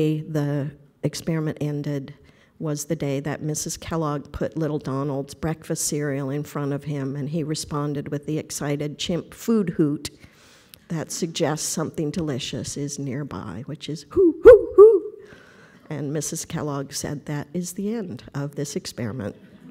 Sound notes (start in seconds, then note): 14.1 imitating hoot